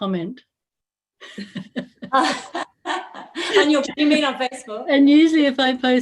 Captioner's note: Gelach